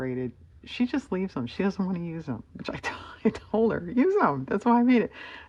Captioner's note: laughs